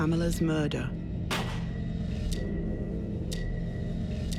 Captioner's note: gun fires; gentle ominous music